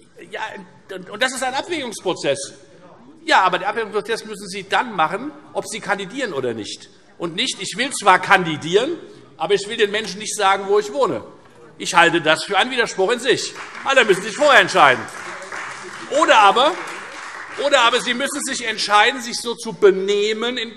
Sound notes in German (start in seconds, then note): 13.4 Beifall Freie Demokraten